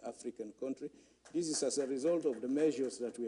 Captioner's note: applause